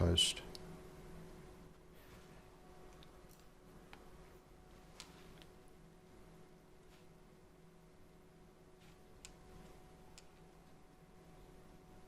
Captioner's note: silence